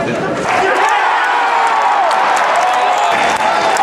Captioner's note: cheering